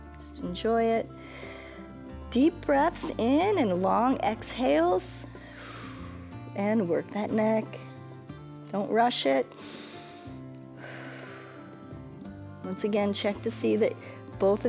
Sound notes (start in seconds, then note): 1.2 inhales; 5.2 exhales; 10.7 inhales and exhales